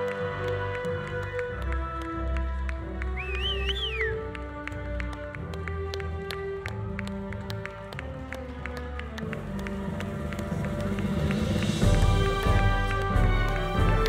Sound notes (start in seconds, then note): 3.0 audience whistling; 3.2 audience applauding